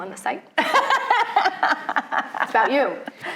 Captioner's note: laughing